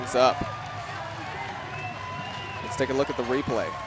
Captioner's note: audience cheering